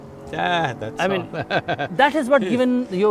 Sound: laughs

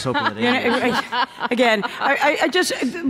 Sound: laughter

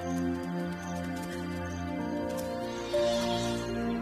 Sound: hyenas squeak

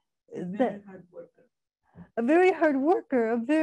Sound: woman's Voice

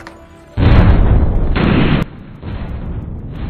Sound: explosions

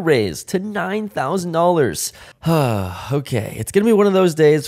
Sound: sigh

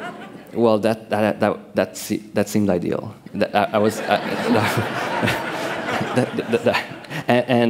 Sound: laughter

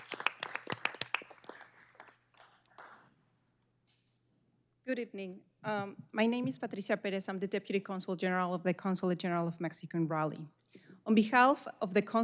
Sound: applause

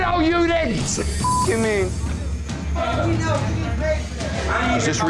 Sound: beep

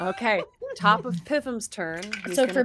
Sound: dice clatter

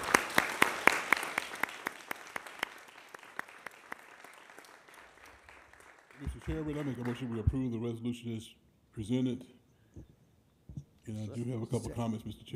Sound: applause

